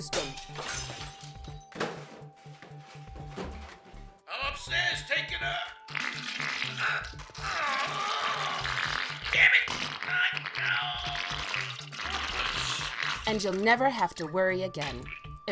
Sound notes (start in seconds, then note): 0.0 breaking glass; 5.4 plopping; 7.3 grunting; 10.8 plopping